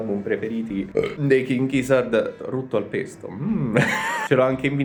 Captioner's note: burps